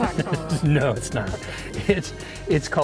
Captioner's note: guide laughing